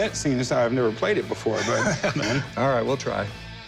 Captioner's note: laughs